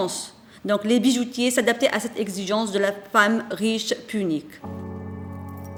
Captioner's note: continues to speak French